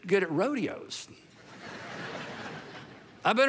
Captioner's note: congregation laughing